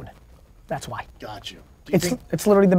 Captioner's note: pat